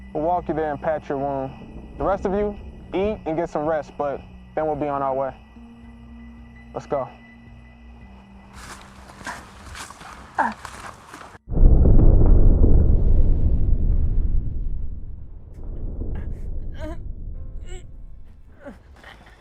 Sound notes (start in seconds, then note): 8.4 dark ominous music fades out; 11.4 thunder; 15.5 sad music starts